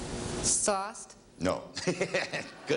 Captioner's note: laughing